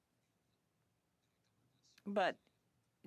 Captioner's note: speaking French